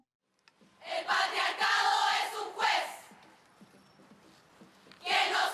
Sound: speaking foreign language

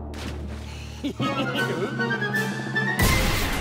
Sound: giggles

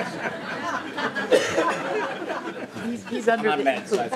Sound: laughing

